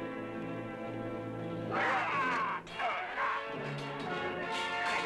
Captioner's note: yelling, clanging